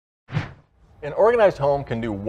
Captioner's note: whooshing